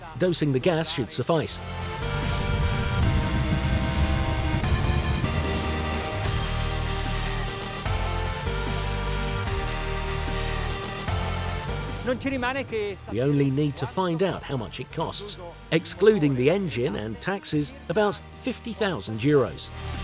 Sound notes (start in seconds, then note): 12.2 speaking foreign language